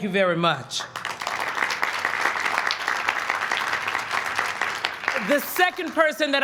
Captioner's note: applause